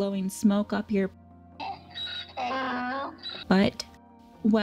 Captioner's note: donkey braying